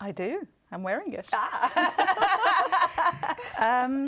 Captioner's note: laughter